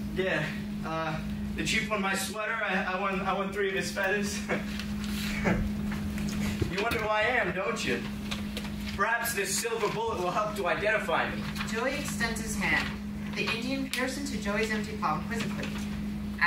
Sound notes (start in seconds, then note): 5.2 laughs